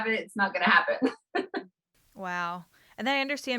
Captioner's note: laughs